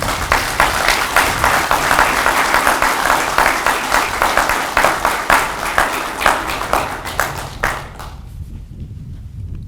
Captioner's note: audience clapping